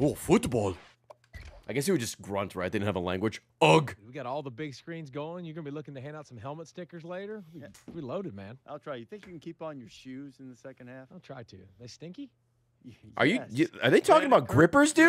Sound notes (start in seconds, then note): none